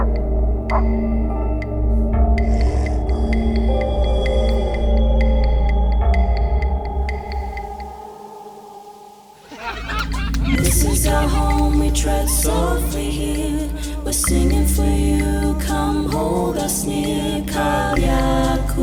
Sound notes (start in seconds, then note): 0.1 dog barking; 2.3 animal growling; 8.2 leaves rustling; 18.3 singing in foreign language